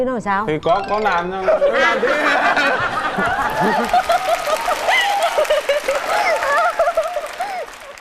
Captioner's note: laughing